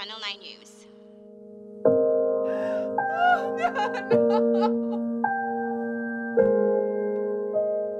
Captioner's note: dramatic music; Mom crying